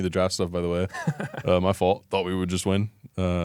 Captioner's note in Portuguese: risos